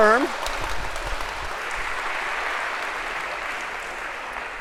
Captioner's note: applause